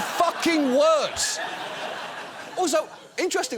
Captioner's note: audience laughs